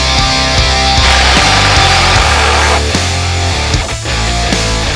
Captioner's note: impact drill